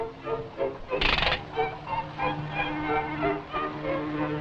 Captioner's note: gentle upbeat music; jaw clicking